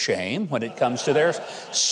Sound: audience laughing

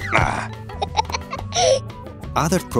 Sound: giggles

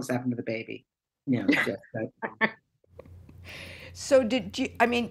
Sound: laughter

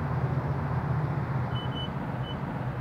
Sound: system beeps

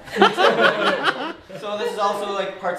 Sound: laughing

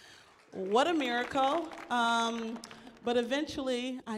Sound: audience applauds

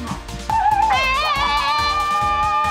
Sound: screaming

